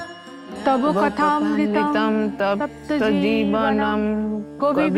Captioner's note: chanting